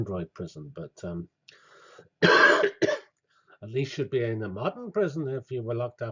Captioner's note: cough